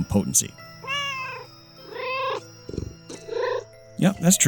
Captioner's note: meow, meow!